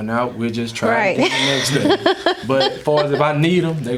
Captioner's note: Mary laughing